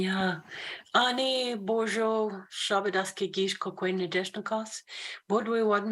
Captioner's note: spoken in foreign language